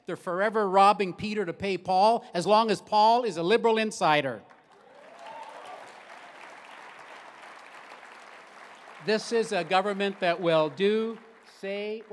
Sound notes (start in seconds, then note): 4.4 applause